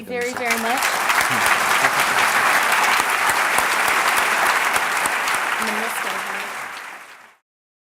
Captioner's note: applause